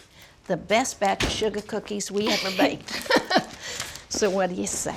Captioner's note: chuckles